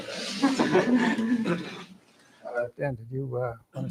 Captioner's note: laughter